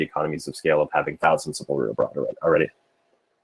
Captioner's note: murmurs